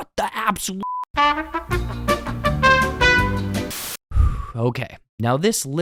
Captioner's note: sigh